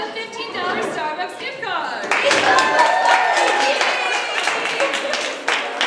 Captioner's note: audience applause